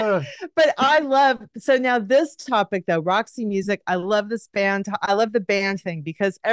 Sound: laughs

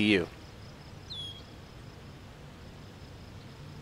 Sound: birds chirping

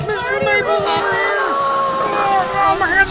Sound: sizzling, screaming

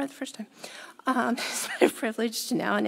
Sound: chuckles

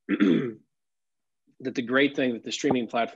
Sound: clears throat

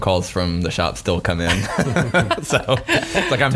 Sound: laughing

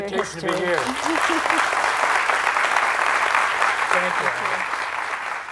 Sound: applause

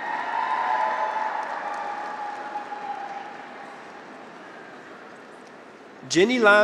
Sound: graduates cheer; audience applauds

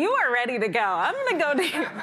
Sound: chuckles

